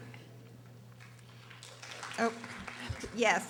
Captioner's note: audience applauding